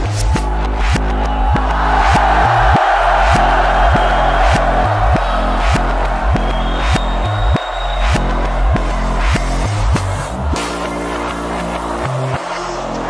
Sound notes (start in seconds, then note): 2.1 crowd roars; 2.1 upbeat music continues